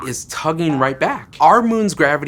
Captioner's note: squeaks squeaks